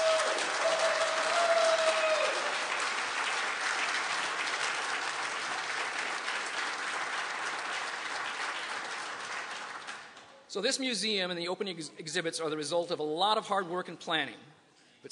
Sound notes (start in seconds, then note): 1.6 applause and cheering